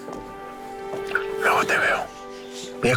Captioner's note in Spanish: Susurra